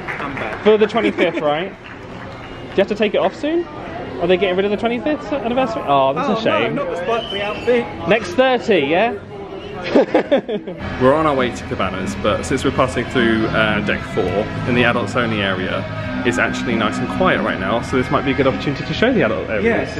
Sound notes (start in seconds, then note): 9.8 laughs